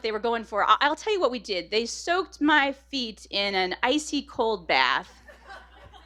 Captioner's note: laughter